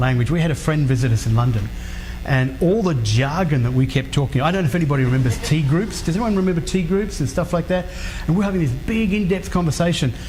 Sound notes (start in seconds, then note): none